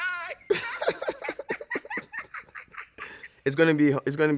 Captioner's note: laughs